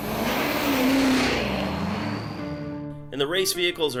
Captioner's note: car engine roaring